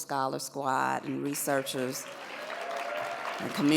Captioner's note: audience applauds